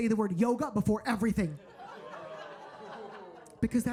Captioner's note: audience laughing